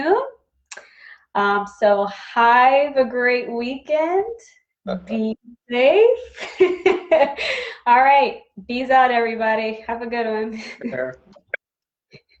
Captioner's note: laughs